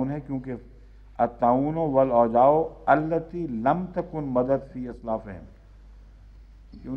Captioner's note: Arabic